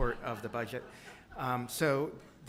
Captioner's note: laughter